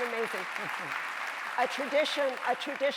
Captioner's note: audience applauding